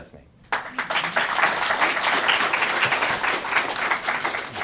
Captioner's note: applause